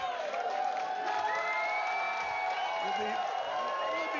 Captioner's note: vítores y aplausos